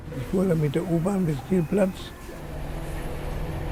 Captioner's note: non english speech